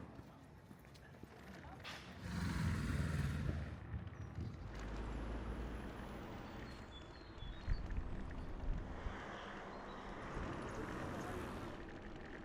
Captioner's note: bicycle ASMR